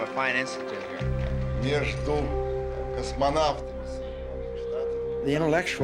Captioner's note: speaking Russian